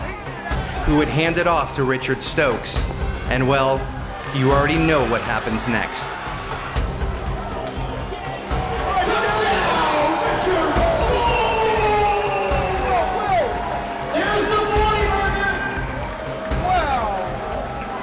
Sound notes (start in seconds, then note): 6.4 intense Music; 11.8 crowd Roars!